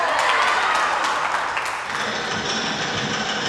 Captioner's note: cheering